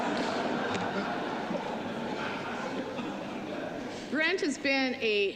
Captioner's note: laughter